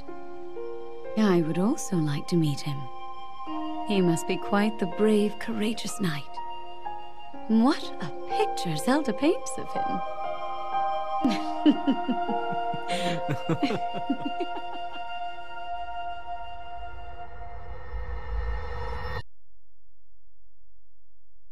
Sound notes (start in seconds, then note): 11.2 chuckling